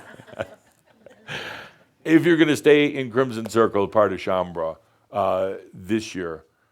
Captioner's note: Adamus chuckles